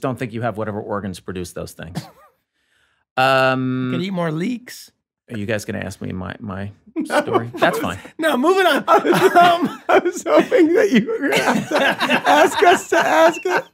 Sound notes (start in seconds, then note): 7.4 laughs; 13.5 all laughing